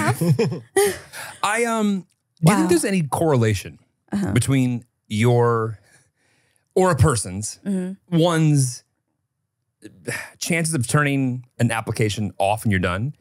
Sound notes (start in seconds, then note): 0.0 everyone laughs; 6.0 laughs